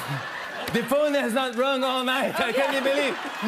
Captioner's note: French accent